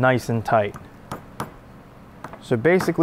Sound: hammer tapping

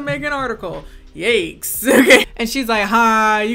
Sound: laughs

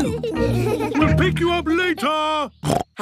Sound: snorts

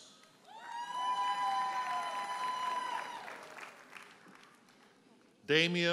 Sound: audience hollers and applauds

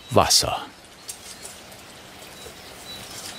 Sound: birds chirping

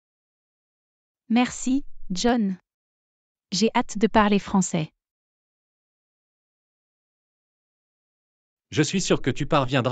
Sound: speak French

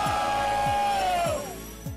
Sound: cheering

